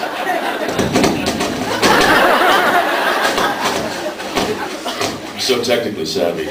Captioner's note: laughs; crackling noises from mic; laughs